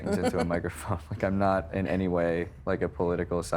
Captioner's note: chuckling